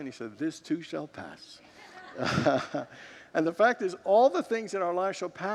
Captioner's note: congregants laugh